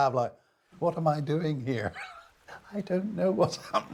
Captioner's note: laughing